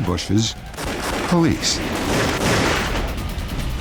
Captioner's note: gunshots